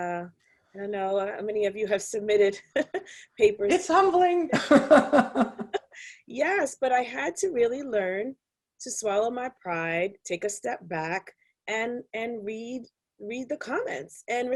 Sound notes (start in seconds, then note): 4.5 chuckles